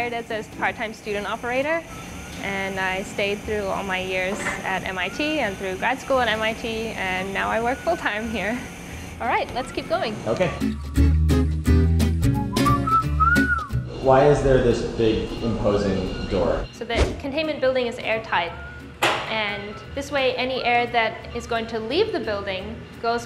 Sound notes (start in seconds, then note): 10.9 guitar strumming; 12.3 whistling